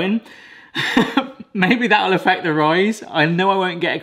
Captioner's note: laughs